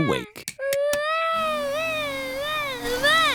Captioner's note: vacuum cleaner whirring